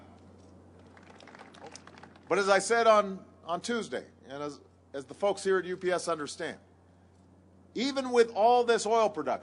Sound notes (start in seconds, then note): 0.8 applause